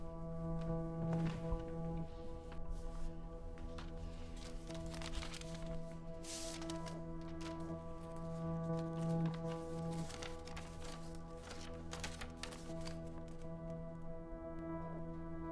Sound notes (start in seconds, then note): 5.2 paper rustling